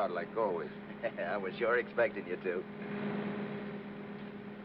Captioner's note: laughs